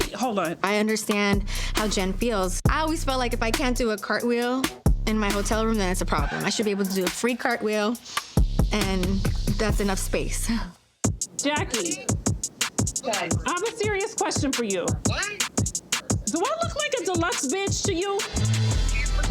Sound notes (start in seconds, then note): 10.6 chuckles